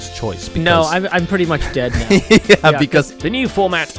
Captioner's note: laughs